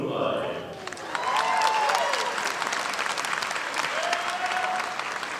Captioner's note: audience applauding